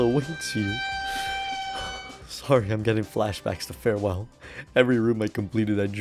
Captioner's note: inhales; exhales